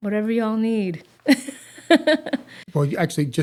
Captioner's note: laughs